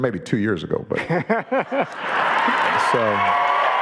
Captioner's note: audience laughing and cheering